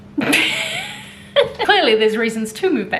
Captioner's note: chuckling